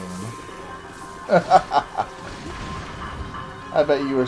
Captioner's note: evil laugh